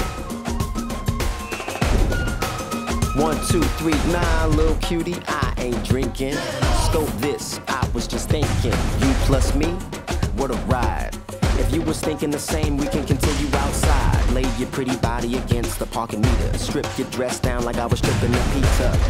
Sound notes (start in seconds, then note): 0.6 feedback squeals